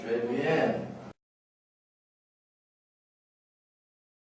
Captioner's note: speaks French